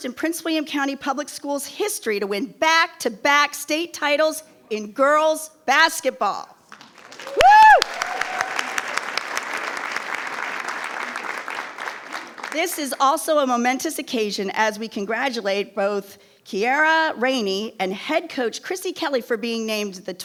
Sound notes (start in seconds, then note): 7.1 attendees cheering; 8.6 attendees applauding